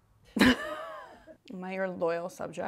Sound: laughs

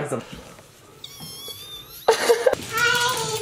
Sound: squealing excitedly; laughs

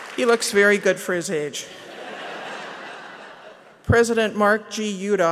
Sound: laughter

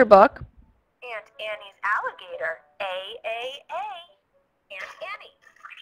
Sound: voiceover

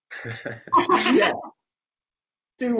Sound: laughs

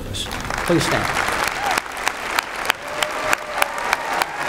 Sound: applause

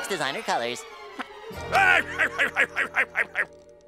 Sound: laughs

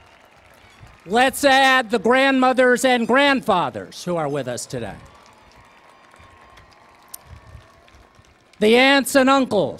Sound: cheering and Applause

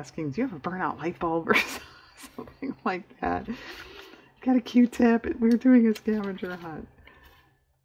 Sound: laughs

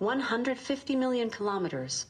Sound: electronic voice

